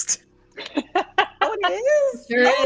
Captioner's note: laughing